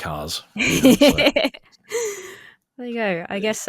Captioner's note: laughs